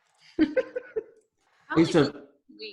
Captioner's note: laughing